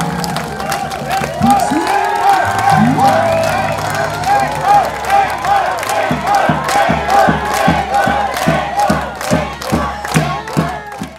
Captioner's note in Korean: 앵콜,박수~앵콜~